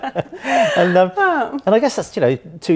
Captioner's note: laughs